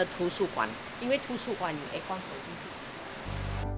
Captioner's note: air conditioning